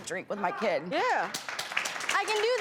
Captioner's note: audience clapping